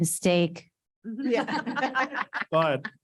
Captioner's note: board members laughing